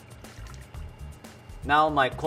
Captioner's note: water dripping